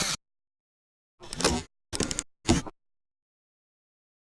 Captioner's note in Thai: เสียงเอฟเฟกต์